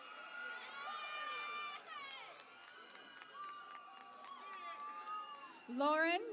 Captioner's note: cheering and Applause